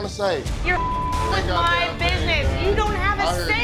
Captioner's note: beep